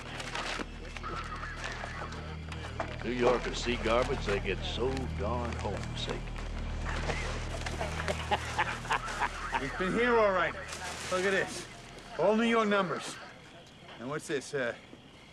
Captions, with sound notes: - New Yorkers see garbage, they get so darn home sick. (Sheriff laughing) - He's been here all right. Look at this. All New York numbers. And what's this?